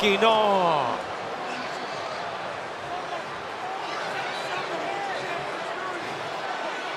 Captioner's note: applause